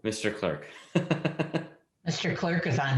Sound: laughing

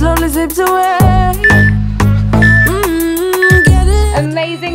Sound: beeping

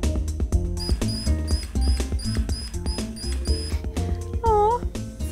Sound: drill whirring

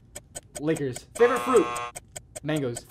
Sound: buzzer

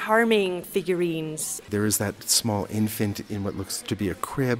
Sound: voiceover

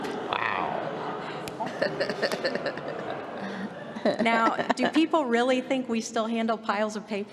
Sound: laughter

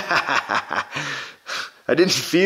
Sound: laughs

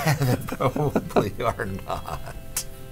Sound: men laughs

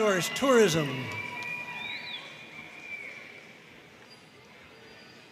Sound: audience cheering and applauding

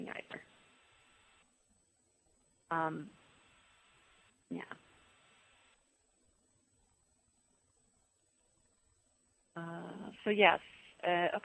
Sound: pause

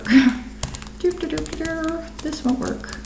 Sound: keyboard tapping

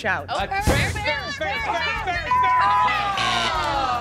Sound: buzzer sounds

